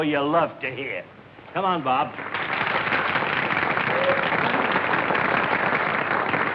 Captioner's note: applause